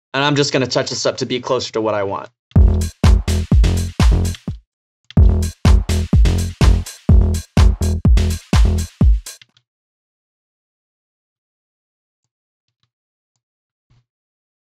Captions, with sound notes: and I'm just gonna touch this up to be closer to what I want. (house beat) (mouse clicking)